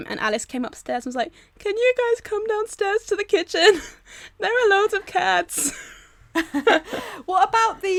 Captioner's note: all laugh